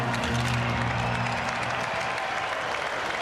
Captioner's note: applause